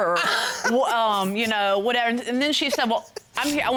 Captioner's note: laughing